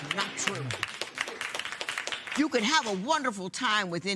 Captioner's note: applause